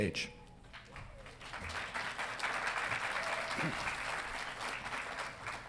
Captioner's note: audience applauding